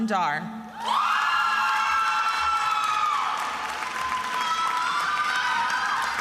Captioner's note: attendees applauding and cheering